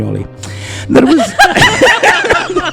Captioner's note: laughter